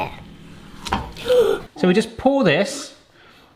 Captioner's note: gasp